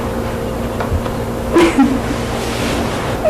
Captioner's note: giggles